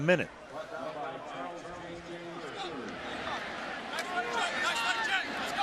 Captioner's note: pa announcement